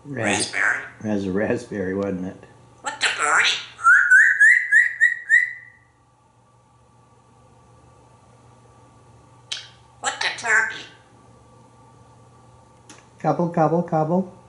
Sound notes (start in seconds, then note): 2.9 birdie sounds